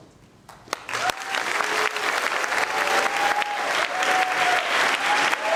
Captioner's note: audience applauding